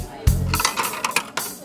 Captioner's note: coin drops through mechanism